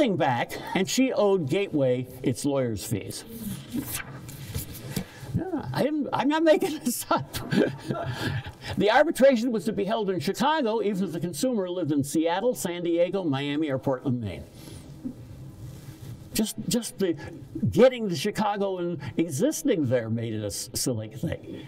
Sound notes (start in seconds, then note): 7.0 laughs